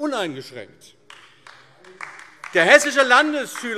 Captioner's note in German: Beifall AfD